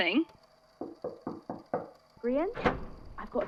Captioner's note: light knocking